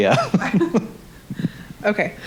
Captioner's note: both chuckling